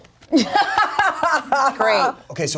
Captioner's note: laughing